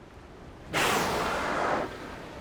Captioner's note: whale blowing